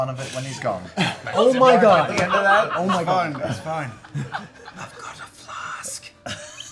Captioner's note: whispering